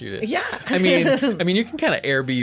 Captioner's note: laughs